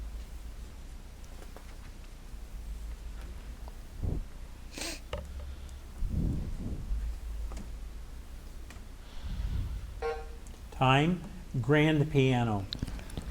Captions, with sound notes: (timer buzzing) Time. Grand piano.